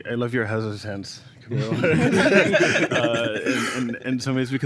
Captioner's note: laughter